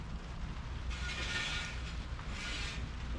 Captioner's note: steel slid on cement